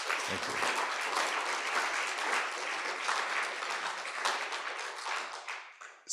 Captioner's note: audience applauding